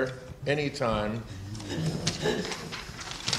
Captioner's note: laughter